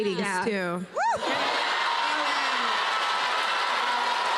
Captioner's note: audience gasps; cheers and applause